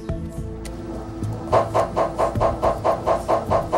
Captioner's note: MRI machine is working noisily